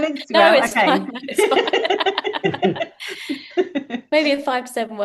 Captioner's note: laughter